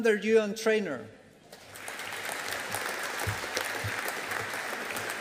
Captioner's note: audience applauding